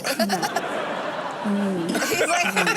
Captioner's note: audience laughs